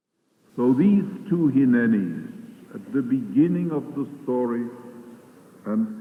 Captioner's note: archival audio of speaking